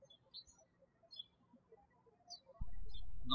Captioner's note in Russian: птички щебечут